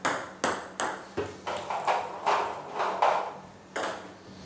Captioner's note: balls ping pong hitting